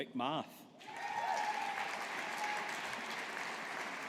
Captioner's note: audience applauding